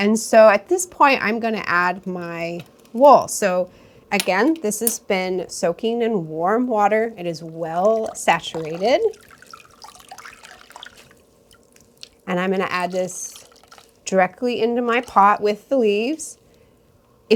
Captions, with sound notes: And so at this point, I'm going to add my wool. So again, this has been soaking in warm water. It is well saturated. (water splashing) And I'm going to add this directly into my pot with the leaves.